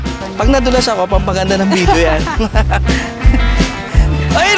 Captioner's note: laughs